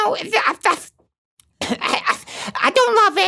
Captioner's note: gags